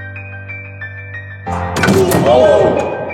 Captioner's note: tense music; dunk sound